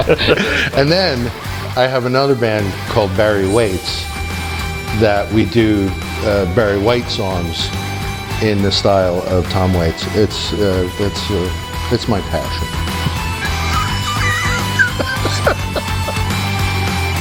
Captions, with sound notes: - And then, I have another band, called Berry Waits, that we do Berry White songs in the style of Tom Waits, it's my passion. (laughing) (rock music)